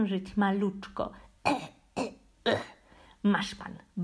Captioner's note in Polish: kasłanie